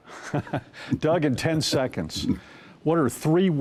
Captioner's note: chuckles